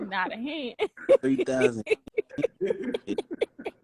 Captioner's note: laughter